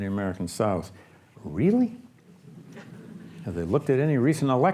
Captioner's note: audience laughs